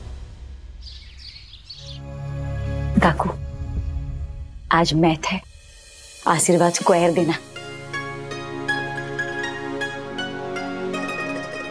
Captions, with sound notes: [birds chirping] Aunt, it's my mathematics exam today. Please give me double the blessings. [ethereal music]